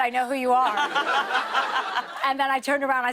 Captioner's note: laughter